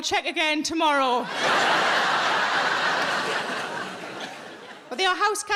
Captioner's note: audience laughing